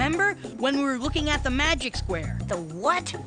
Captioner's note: none